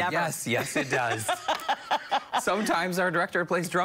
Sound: laughter

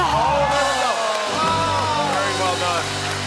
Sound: cheers and applause

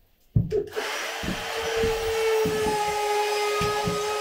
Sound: saw buzzing

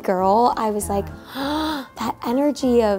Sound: Beanie gasping

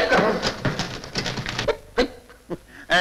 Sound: typewriter Clacking

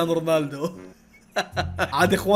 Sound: laughs

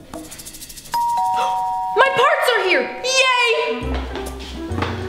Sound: doorbell rings

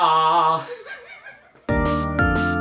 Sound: laughs; upbeat music plays

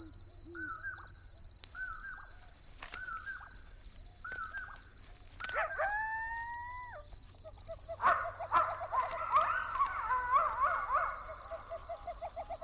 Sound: crickets chirping, coyotes howling, owls hooting

